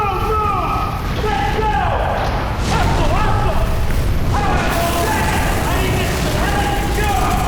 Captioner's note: explosions